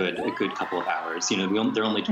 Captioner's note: cheering and applause